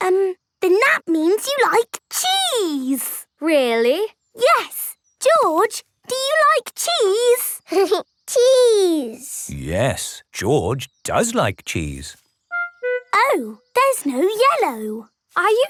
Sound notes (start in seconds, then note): 7.7 giggling